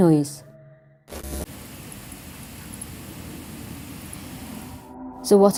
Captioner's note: white noise static